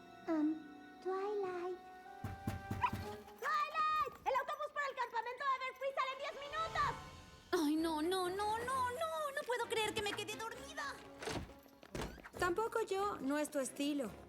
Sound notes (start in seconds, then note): 2.2 knock at door